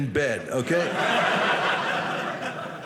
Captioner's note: audience laughing